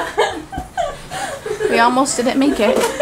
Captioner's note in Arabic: يضحك